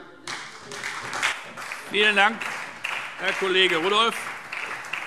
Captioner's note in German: Beifall SPD und vereinzelt Freie Demokraten